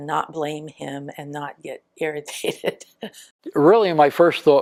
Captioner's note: laughs